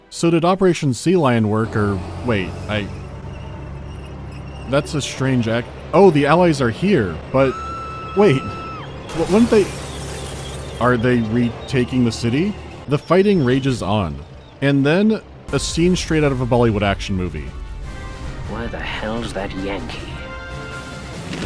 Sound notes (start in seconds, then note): 7.4 woman screaming; 20.9 grumbling of motorcycle engine and gunfire